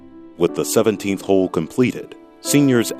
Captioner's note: voiceover